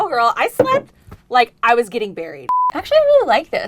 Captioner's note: beep